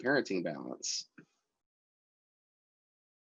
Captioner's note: long pause